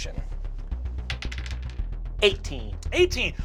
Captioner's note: rolls dice